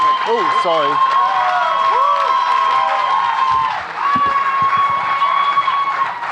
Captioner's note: audience cheering and clapping